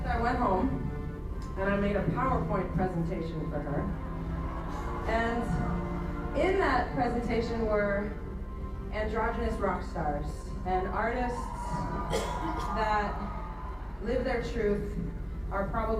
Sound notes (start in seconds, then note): 10.9 audience on screen cheers